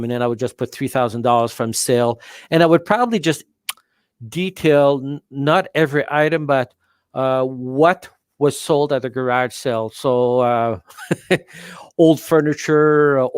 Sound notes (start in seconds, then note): 10.9 laughs